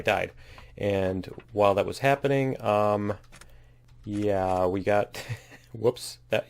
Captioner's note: laughs